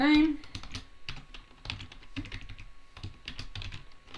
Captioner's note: keyboard clacking